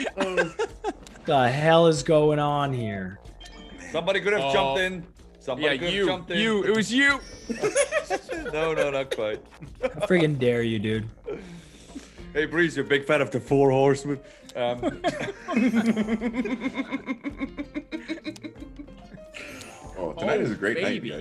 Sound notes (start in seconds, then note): 7.2 laugh; 14.6 laugh